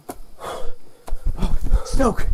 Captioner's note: stoke breathing heavily